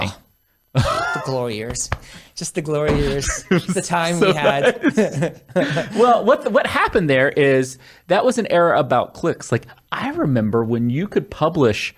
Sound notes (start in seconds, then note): 2.9 laughing